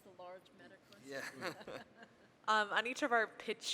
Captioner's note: laughing